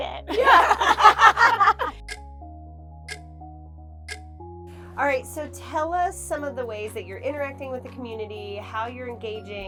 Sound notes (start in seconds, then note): 0.3 all laughing; 2.4 clock ticking